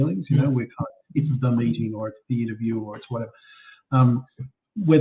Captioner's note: audio distorts